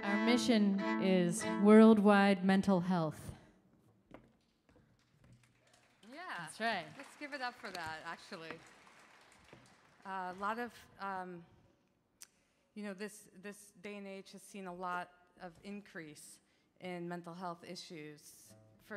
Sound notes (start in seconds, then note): 5.4 audience applauding